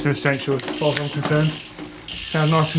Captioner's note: wheels spinning and gears shifting